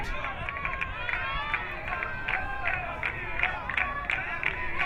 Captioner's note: crowd cheering